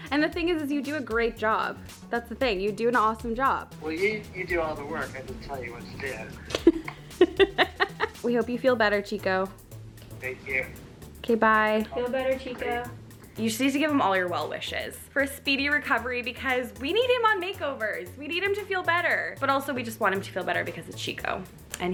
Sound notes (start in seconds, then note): 6.4 laughs